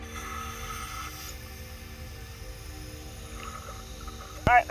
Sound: air whooshes

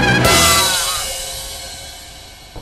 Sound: york screams

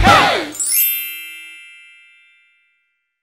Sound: bells chiming

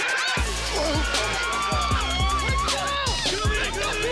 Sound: crowd cheering

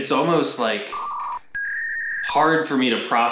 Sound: modem beeping sound effect

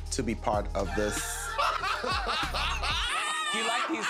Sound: laughter

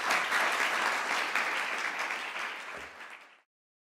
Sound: applause

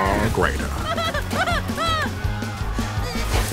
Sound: shrieking

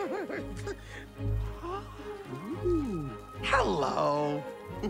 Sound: giggles; gasps

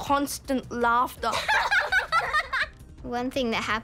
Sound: laughs

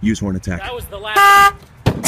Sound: honk

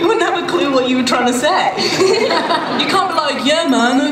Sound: laughter

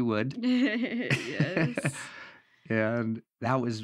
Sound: laughs

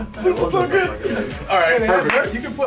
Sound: laugh

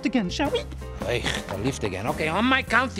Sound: scoffs

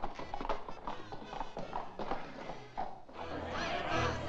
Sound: hooves trot away; music & jovial singing

